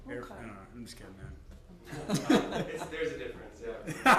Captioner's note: laughter